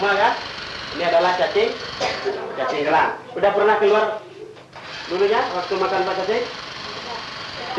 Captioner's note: Indonesian speech